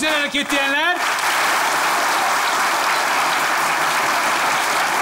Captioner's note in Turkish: Alkış sesleri